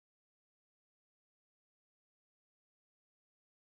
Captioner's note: none